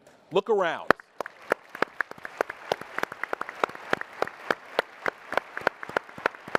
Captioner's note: applause